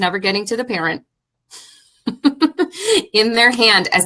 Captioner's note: laughing